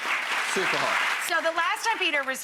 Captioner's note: applause